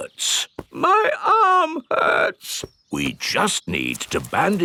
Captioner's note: in teddy's voice; in normal voice